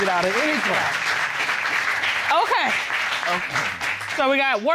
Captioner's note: audience applauds